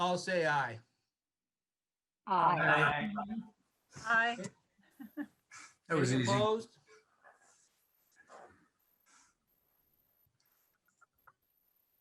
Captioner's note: silence